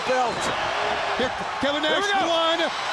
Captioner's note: crowd cheering